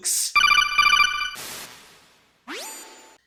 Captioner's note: codec call noise